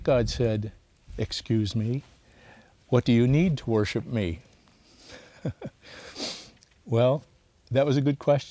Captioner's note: laughs